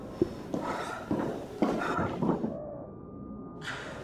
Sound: Ciez panting

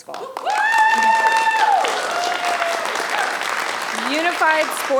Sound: audience applauding

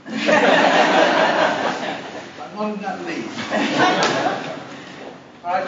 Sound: ha ha ha

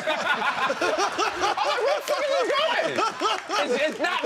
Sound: laughing

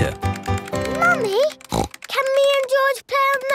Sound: snorts

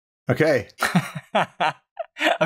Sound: laughter

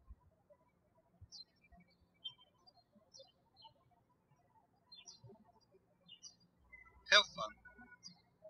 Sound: birds chirping

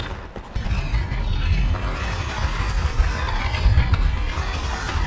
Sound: skates swooshing

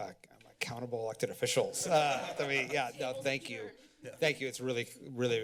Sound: laughter

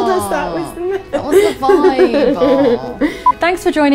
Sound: laughing; whining

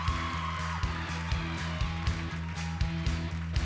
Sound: cheers and applause

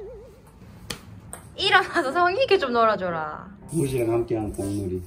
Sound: slap

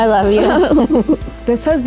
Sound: laughter

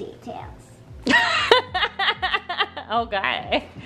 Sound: laughing

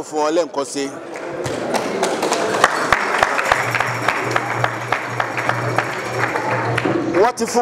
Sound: round of applause

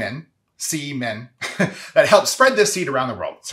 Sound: chuckles

